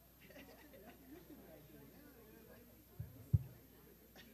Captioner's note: chattering